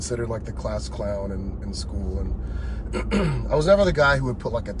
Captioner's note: coughs